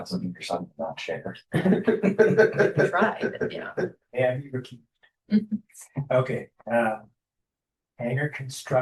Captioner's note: laughter